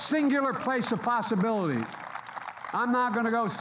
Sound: applause

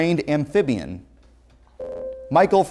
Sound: buzzer

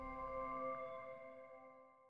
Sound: keyboard clacking

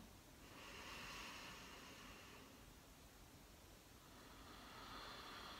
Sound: breathing deeply

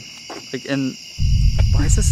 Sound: rumbling

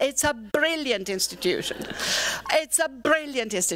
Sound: laughter

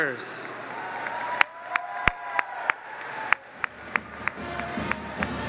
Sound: audience applauds; instrumental music

